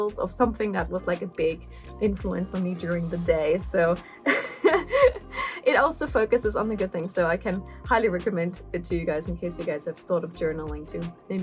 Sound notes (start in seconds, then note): 4.1 laugh